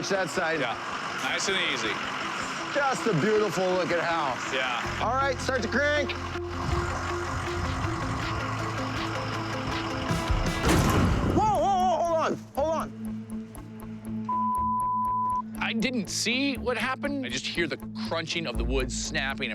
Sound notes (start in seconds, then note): 6.7 upbeat music; 10.1 thuds